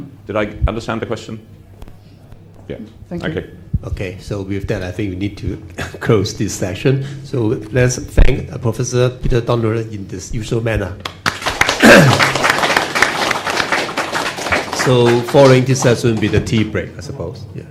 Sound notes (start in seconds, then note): 11.0 Applause; 11.0 拍掌